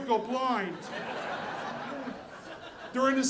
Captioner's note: audience laughing